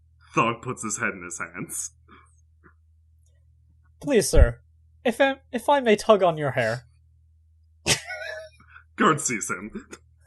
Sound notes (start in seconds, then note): 7.8 laughter